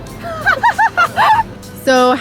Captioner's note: Laugh out loud